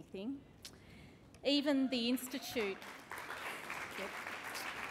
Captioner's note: applause